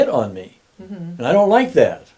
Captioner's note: humming